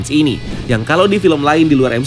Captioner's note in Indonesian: suara transisi